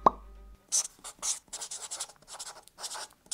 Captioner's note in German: Stiftkratzen